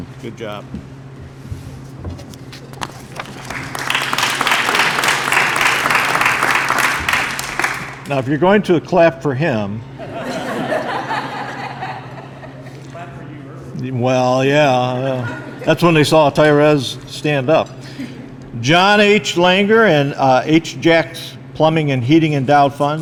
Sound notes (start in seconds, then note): 2.9 applause; 10.0 laughter